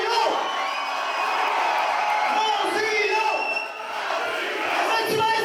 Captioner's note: audience screams “ ”